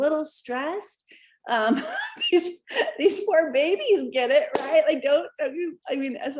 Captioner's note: laughter